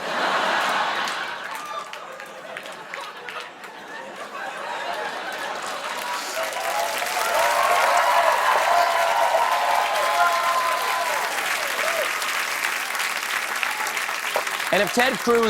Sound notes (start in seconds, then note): 2.7 applause; 2.7 laughter